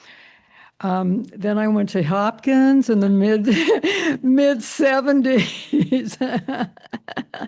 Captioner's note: chuckles